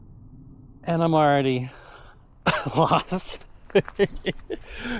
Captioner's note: laughing